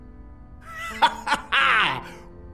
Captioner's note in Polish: Śmieje się